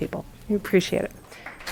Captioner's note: applause